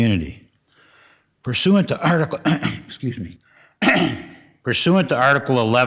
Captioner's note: coughs